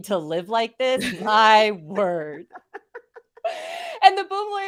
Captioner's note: laughs